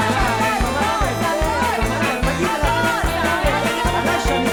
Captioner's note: man and woman arguing loudly